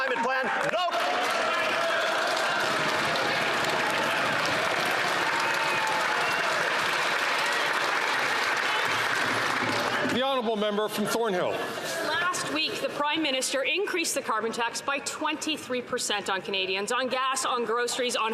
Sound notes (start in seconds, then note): 7.4 some Applause